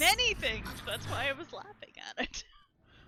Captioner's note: laughs